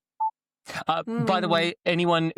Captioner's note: boop